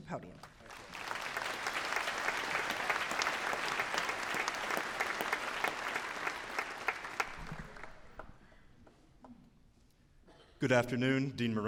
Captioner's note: applause